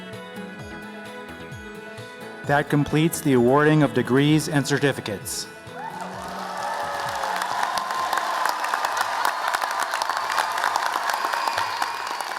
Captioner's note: cheers and applause